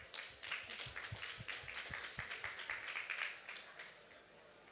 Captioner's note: applause